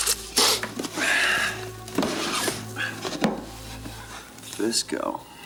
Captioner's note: Graham sighs